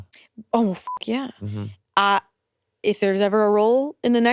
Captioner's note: beeps